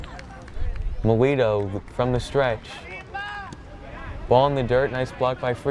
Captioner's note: player yells